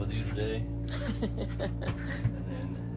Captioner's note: laughing